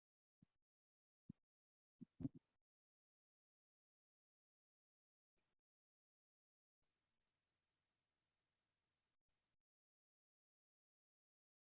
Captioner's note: no sound